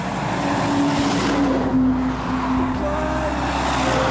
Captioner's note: passing Traffic